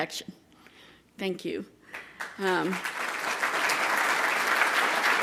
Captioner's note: audience applauding